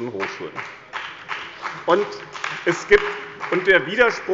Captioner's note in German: Beifall bei dem BÜNDNIS 90/DIE GRÜNEN und der CDU